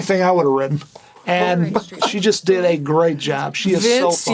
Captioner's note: Burnett laughs